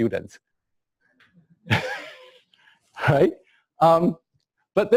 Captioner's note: pause